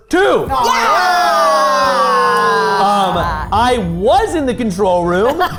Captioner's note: cheer; group laughing